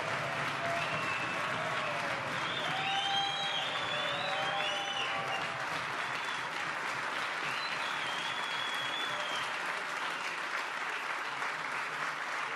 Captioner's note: applause